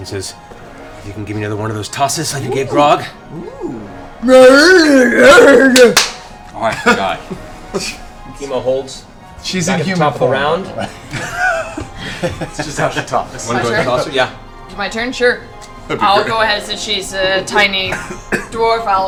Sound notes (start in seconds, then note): 2.6 grunting affirmatively; 10.6 laughs